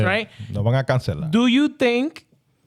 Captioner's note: speaking In Foreign Language